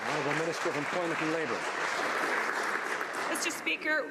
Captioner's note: some Applause